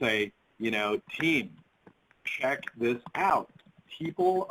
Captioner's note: keyboard clatters